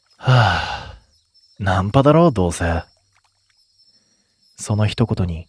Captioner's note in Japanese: ため息